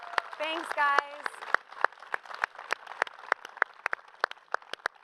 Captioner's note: applause